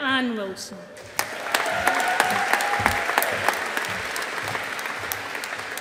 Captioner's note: audience applauding